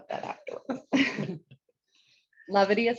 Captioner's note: chuckles